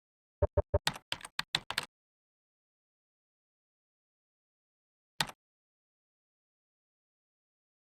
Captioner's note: keyboard clicks